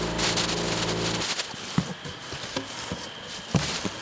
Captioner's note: paper crinkling